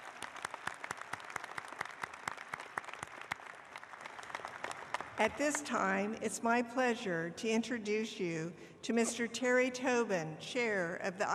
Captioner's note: applause